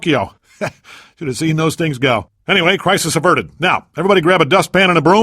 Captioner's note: chuckles